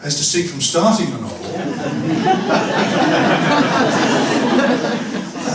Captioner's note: laughter